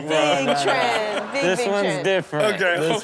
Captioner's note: crowd laughs